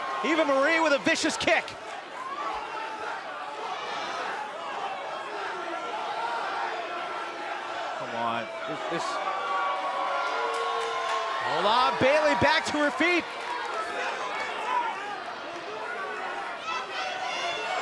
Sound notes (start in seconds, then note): 3.9 fans chanting; 10.8 cheers & applause